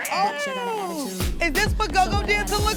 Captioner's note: growling